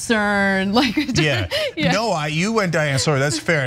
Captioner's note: laugh